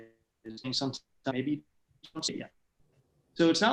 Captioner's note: sound cutting out